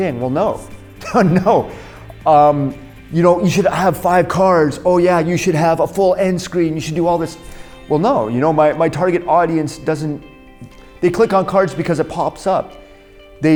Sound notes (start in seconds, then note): 1.0 laughs